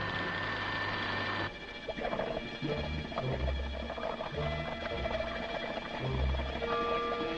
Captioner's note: soft uneasy music continues; water bubbling